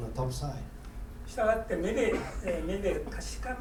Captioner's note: speaking in foreign language; coughing